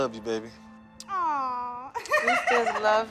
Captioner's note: laughs